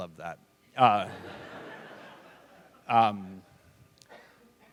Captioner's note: laughter